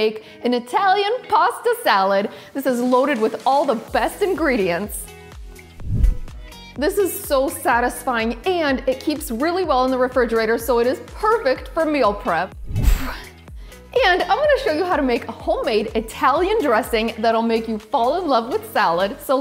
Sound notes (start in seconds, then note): 12.6 gentle whoosh